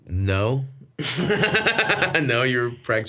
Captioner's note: Stavros laughs